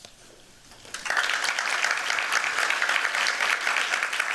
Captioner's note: applause